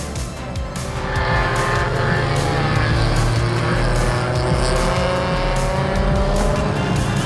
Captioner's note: bright music; engine revving